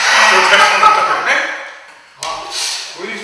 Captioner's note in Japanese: 爆笑